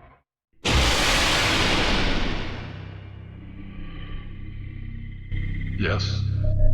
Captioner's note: sound of evil spirit growling and attacking